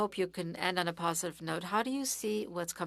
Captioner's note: speaking French